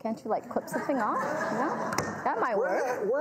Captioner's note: audience laughs